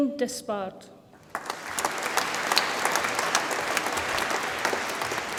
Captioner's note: audience applauds